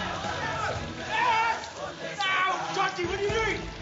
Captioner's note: shouts